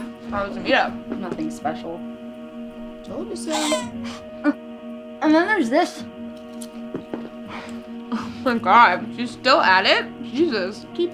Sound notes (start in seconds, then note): 3.4 cell-phone: cat's meoow jingle